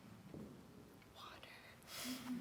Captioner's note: whispering; laughter